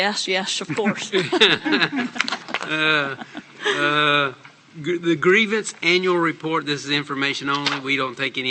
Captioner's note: laughter